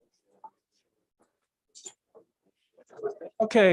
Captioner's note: background chatter